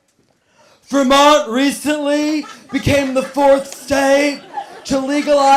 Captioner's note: gruff voice